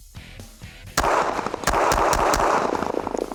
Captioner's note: gun shots